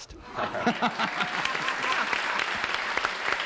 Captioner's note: applause